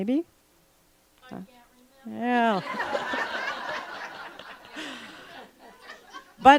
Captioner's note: laughter